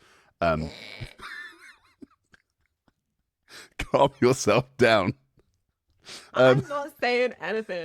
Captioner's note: scoffs with laughter